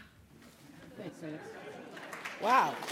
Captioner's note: applause